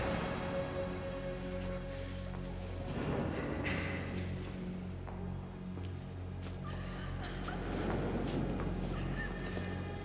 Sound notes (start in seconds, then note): 6.6 woman sobbing